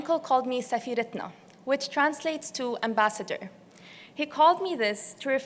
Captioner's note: non-english